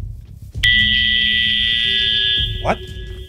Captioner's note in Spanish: Pitido